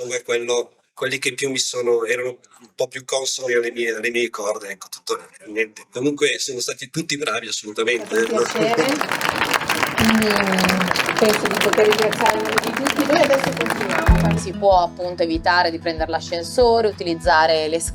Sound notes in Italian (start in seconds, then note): 7.8 Applauso